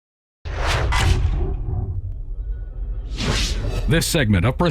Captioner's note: logo whooshing